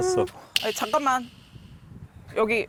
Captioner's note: sound that something important’s coming